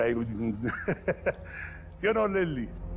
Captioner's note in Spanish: Risas